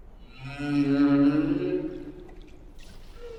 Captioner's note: whale singing